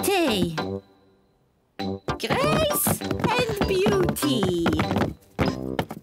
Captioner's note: feet thud loudly